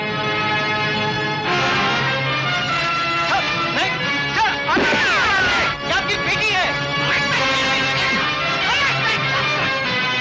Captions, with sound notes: Sir, no.. sir.. [Gun Shot] She is your daughter. Catch them.